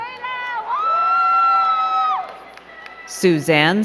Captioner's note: crowd cheering and clapping